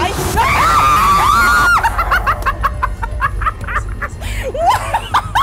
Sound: screaming; laughing

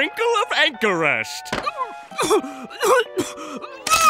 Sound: gagging

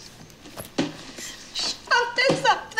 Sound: laughing

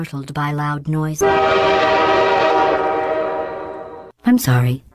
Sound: loud train horn

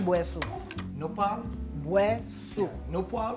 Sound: speaking Creole; both speaking Creole

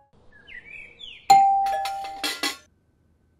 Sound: doorbell rings

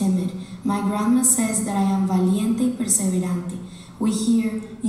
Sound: speaking Spanish

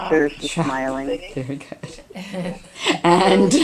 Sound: voiceover

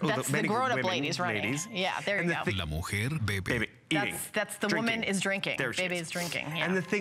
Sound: foreign language

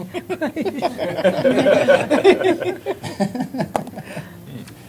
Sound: laughter

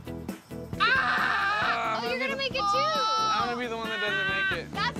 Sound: screams

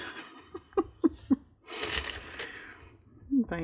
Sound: laughs

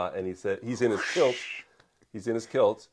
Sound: makes a swooshing noise

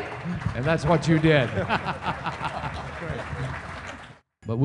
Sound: laughter/applause

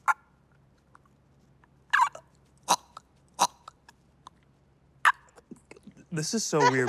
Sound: choking sounds continue

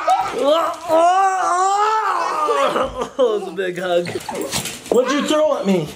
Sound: grunting

